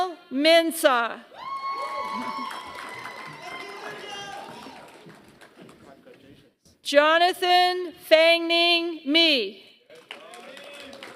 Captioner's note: applause